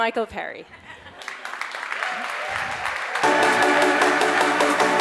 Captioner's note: audience applauds; upbeat music